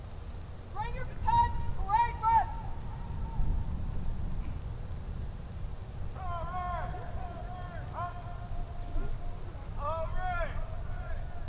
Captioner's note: shouted commands